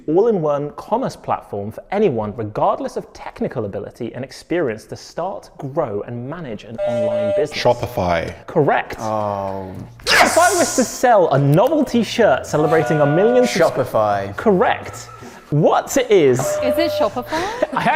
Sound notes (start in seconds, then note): 6.8 buzzer buzzes